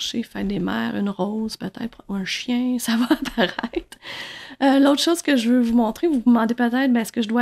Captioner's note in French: rire